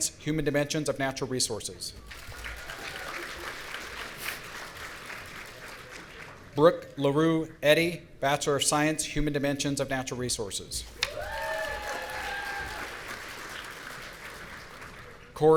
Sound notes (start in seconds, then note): 2.0 audience applauding; 11.0 audience cheering